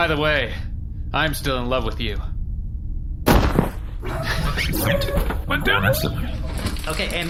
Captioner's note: Seesu thuds to the ground